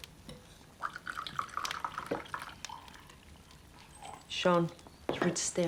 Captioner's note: coffee pouring